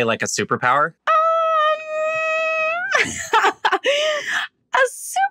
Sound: laughs

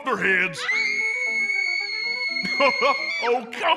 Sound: screaming

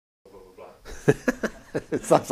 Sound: laughs

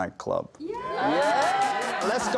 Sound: cheering

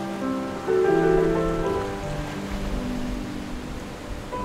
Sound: waves splashing

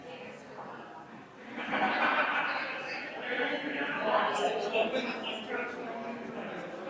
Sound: people chattering distantly continues

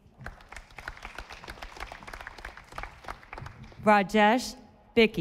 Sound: audience applauding

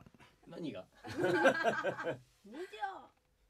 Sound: laughs

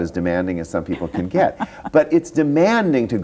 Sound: laughs

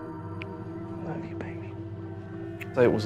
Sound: whispers

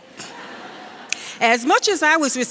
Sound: laughs

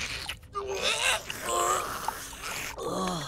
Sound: gagging

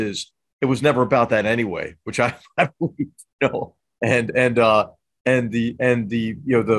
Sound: laugh

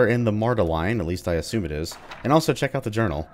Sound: journal opens

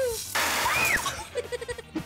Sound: screaming

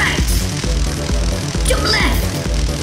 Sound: electricity crackling

